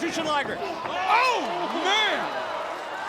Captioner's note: blows thudding